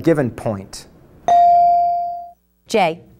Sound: bell dinging

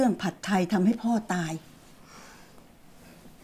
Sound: sighs

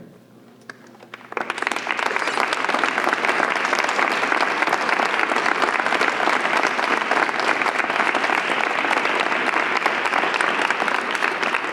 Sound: applause

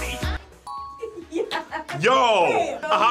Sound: laughs

